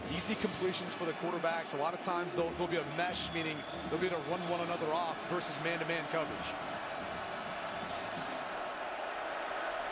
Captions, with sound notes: easy completions for the quarterbacks. A lot of times, there'll be a mesh, meaning they'll be able to run one another off versus man-to-man coverage. [CROWD CHEERING]